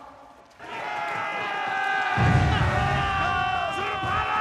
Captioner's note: shouting and explosions